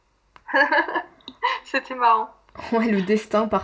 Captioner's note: laughs